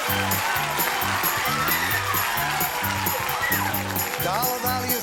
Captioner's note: applause